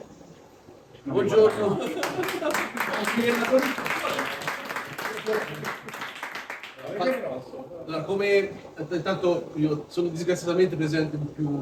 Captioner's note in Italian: Applauso